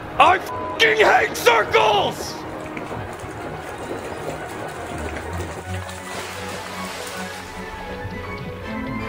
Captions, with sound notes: - I (beeps) hate circles. (water sloshes) (eerie music)